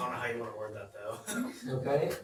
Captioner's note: laughter